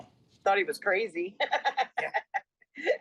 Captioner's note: laughs